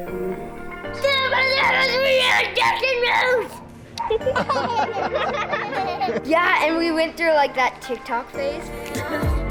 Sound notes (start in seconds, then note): 1.1 yelling in gibberish; 3.9 all laughing; 8.6 high energy music